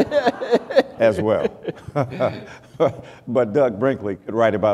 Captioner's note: laughter